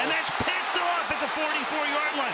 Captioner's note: cheering